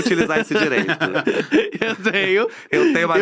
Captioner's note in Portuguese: risos